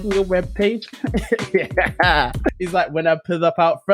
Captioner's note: laughter